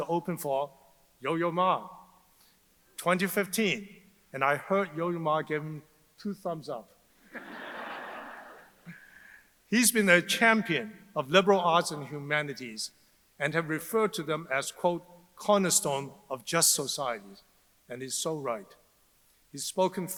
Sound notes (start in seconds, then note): 7.3 audience laughs